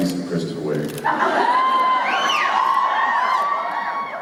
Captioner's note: cheers and whistles